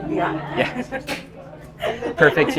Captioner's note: laughs